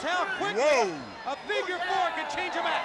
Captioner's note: crowd cheering